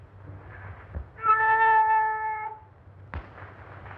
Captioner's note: cat yowling